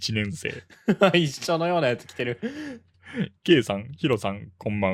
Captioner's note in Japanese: 息をのむ音; 笑い